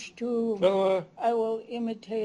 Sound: non-english speech

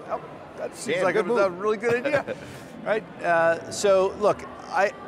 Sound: laughs

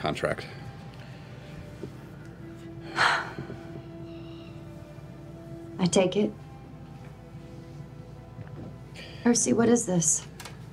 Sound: sighs

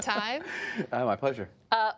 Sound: laughter

